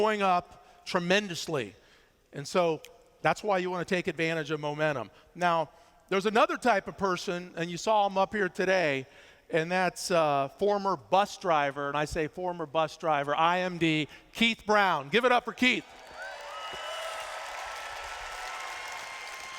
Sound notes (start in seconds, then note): 15.8 cheers